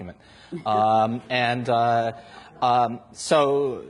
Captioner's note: audience laughs